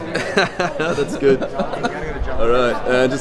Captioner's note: both people laugh awkwardly